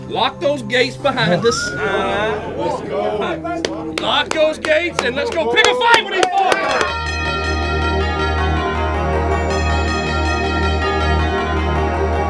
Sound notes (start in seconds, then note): 1.3 team cheers; 6.9 chimes rhythmically ring